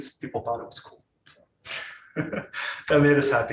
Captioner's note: laughing